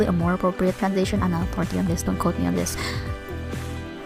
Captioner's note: breathe